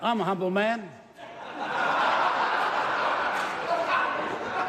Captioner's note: laughter